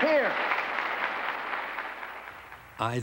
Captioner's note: applause